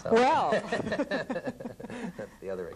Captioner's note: laughter